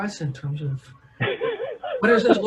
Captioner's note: laughs